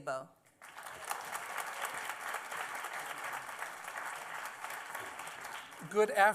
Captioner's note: applause